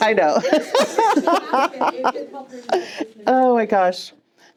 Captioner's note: more laughter